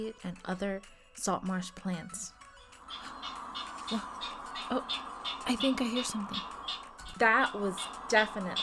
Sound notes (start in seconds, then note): 2.8 california Ridgway's Rail call